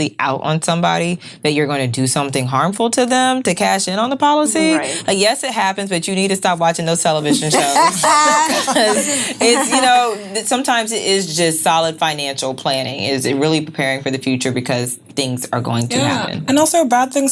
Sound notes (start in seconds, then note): 7.4 laughing